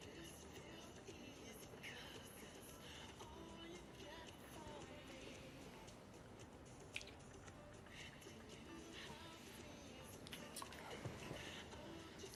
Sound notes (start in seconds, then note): 6.7 lips smacking